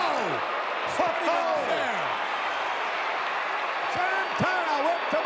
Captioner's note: audience cheering